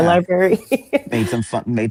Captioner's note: laughs